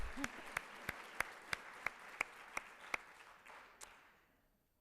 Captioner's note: audience applauds